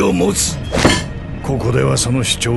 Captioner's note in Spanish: Jack golpea la mesa